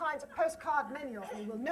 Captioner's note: laughter